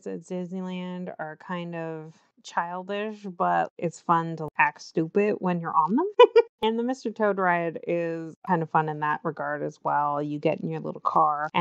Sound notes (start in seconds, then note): 6.2 laughs